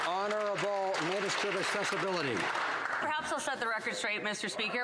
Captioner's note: some Applause